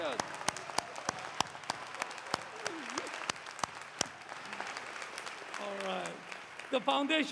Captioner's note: applause